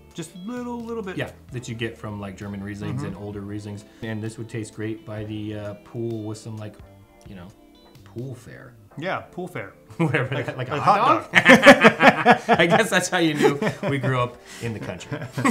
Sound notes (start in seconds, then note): 11.2 both laughing